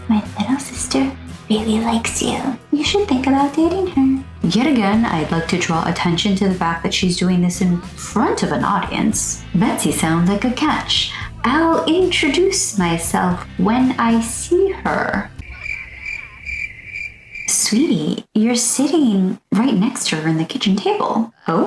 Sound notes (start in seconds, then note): 15.4 crickets sfx